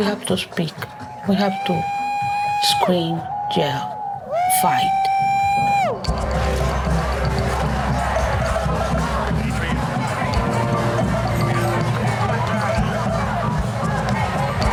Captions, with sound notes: We have to speak, we have to scream, yell, fight. (people yelling) (tense music)